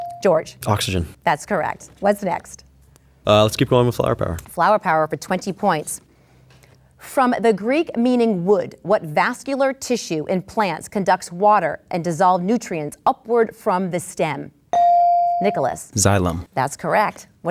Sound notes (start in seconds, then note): 14.7 bell dings